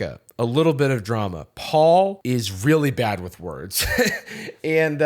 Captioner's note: laughs